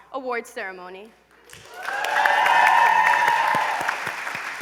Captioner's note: applause, cheering